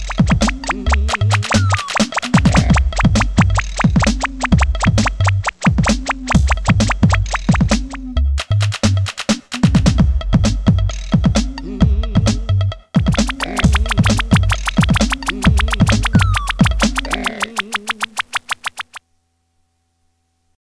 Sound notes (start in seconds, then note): 0.0 pop pop pop pop pop; 13.0 pop pop pop pop pop